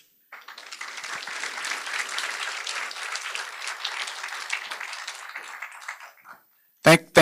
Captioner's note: applause